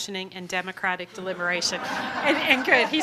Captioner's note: audience laughter